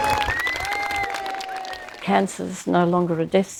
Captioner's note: audiance whistle, cheering and applause